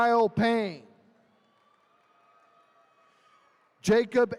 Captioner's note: attendees cheering